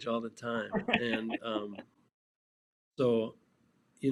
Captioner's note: laughing